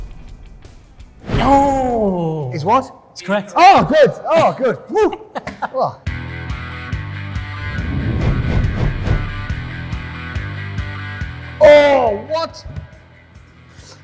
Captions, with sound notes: (whooshing) (Dec groaning) - It's what? - It's correct. - It was correct. - Oh good, oh good, phew! (upbeat rock music) (whooshing) Oh what?